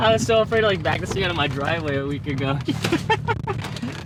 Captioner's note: laughs